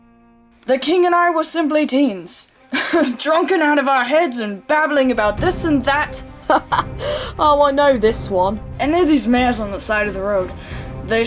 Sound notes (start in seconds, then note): 5.9 Altair laughing